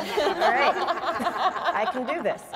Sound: panelists laughing

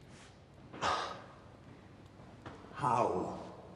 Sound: sighs

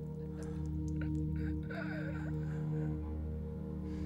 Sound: Gabriel laughs

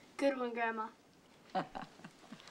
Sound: chuckling

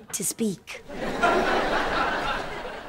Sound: laughing

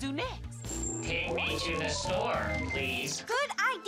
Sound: robot

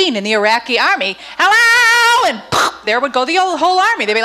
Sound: imitates gun firing

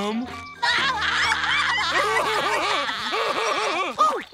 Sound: laughing

